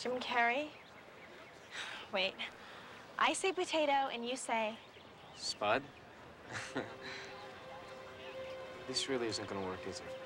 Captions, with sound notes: JIM CARREY? WAIT. I SAY POTATO, AND YOU SAY... SPUD? ( chuckling ) TH IS REALLY N'IST GOING WTOOR IK,S IT?